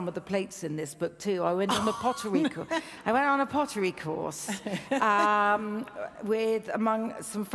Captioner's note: laughs